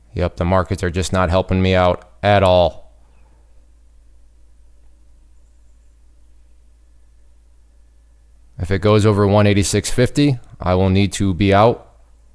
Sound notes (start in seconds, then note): none